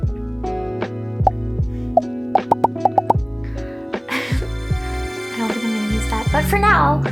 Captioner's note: popping sounds; shimmer sound